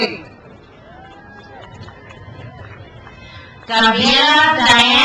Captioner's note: crowd cheers